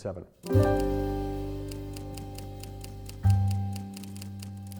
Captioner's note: typewriter keys clicking